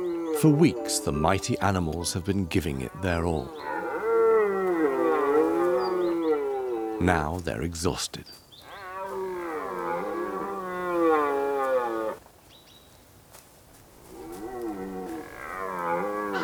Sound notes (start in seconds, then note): 3.4 stags roaring